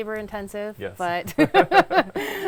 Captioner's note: laughing